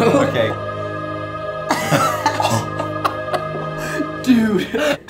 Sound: laughing

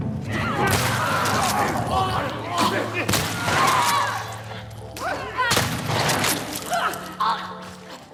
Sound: sound of gunfire, cries of infected

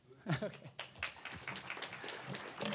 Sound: applause

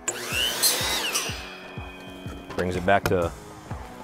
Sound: saw buzzing

